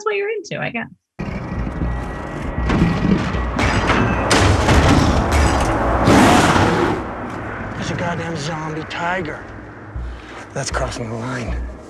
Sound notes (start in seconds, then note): 2.5 creature roaring